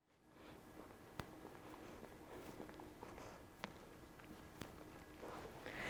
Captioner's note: footsteps approaching